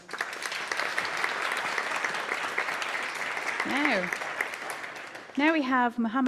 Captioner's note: applause